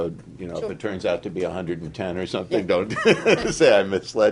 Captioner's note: laughter